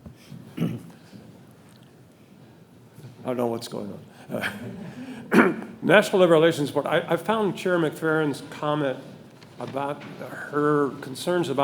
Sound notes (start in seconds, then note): 4.3 audience laughing; 4.3 chuckling